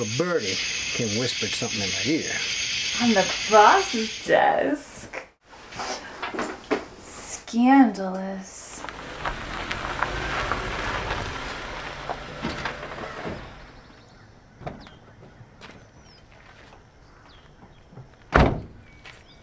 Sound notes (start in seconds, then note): 9.1 car approaches; 18.3 door shuts